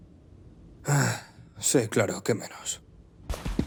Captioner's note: sighs